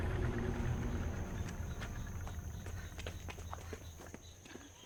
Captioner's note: birds chirping